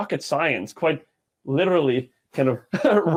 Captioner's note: chuckling